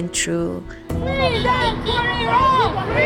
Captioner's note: crowd chanting